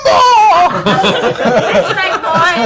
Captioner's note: laughter